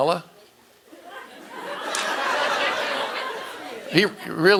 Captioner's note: audience laughing